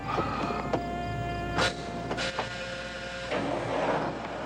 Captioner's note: engine Starts